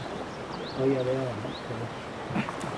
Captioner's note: laughing